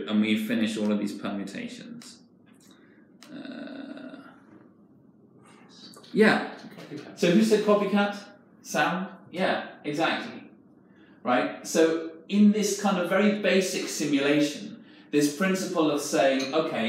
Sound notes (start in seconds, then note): none